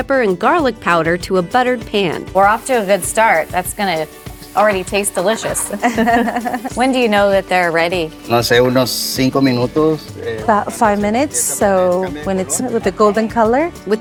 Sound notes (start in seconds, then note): 5.4 chuckles; 8.7 speaks Spanish